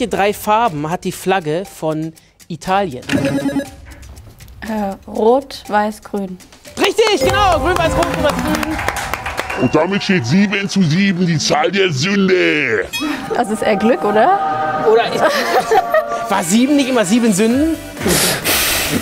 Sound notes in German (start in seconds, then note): 7.1 Jubel, Applaus; 9.5 verzerrt; 13.9 Himmlische Klänge